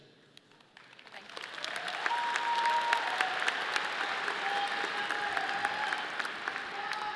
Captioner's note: audience applauding